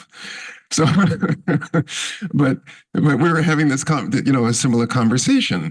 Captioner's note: laughs